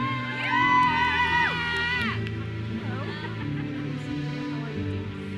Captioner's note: audience cheers and applauds